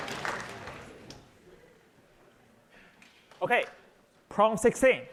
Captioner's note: applause